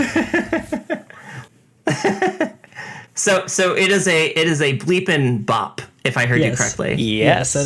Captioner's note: laughs